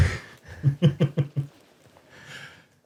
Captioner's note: laughter